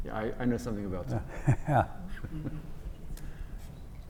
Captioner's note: laugh